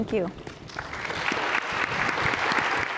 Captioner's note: applause